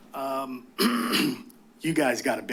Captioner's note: clears throat